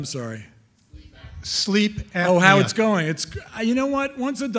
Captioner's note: voiceover